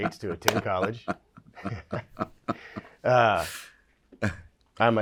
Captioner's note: laughs